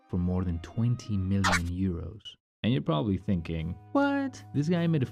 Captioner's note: audio scratch